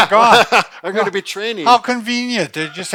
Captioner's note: laughing